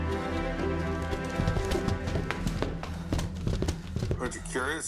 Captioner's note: object knocking around in box